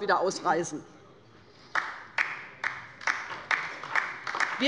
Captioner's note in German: Beifall bei der LINKEN